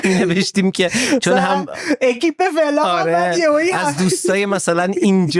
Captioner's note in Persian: خنده; خنده